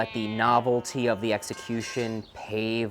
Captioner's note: metal poles clanging